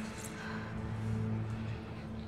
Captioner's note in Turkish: Nefes sesi